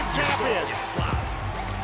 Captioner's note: bell